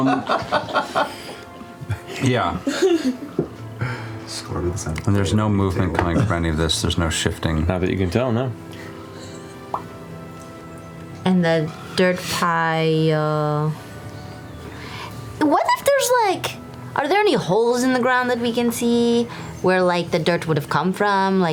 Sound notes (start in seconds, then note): 0.0 laughter; 9.5 lip popping